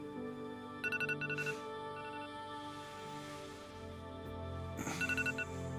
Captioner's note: phone alarm ringing; Kent sighing